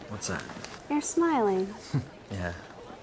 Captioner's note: chuckles